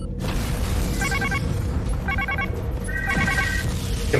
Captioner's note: explosion; alarm